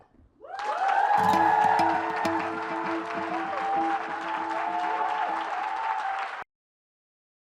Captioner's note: applause